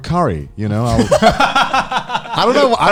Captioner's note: laughing